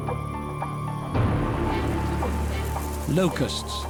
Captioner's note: locusts fluttering